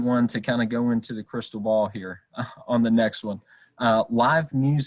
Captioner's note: chuckles